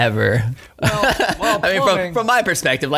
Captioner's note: laughing